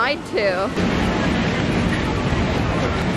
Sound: roaring sound from park rides

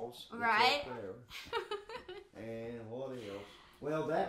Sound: chuckling

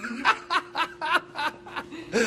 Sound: laughter

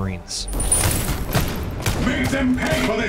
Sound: guns fire

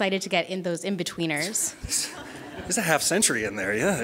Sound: laughing

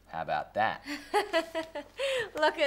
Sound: Jet laughs

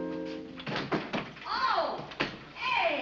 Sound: thudding

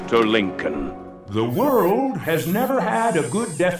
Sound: robotically

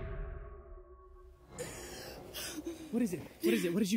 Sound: gasps

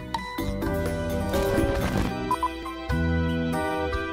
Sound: beeps and glitch noises

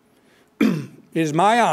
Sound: clears throat

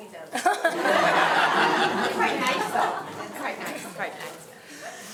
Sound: audience laughing

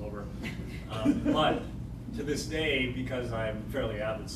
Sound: laughter

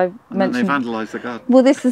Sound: laughs

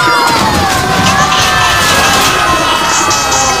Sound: crashing loudly; screaming; crashing extremely

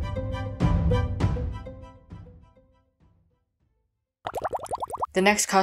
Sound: bubbles

